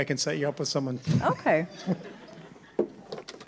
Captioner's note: laughing